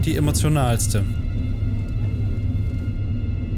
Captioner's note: quiet, gloomy sounds